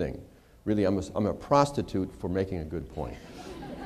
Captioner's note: laughter